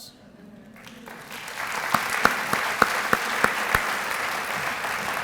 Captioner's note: applause